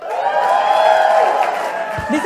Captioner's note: applause/cheers